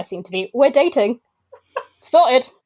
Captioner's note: laughs